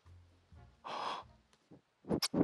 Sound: gasps

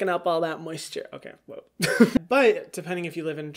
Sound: chuckles

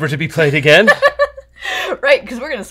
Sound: laughter

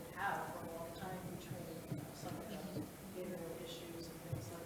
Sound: speaks faintly

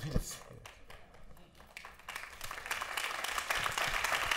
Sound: applause

